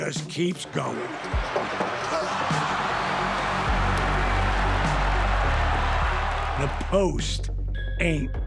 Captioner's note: applause